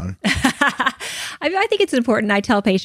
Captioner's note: laughs